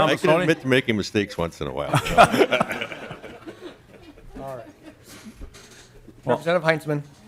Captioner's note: laughter